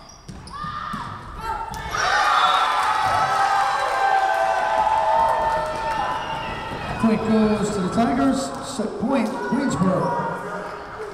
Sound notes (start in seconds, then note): 1.8 Tigers cheering; 2.3 whistle blowing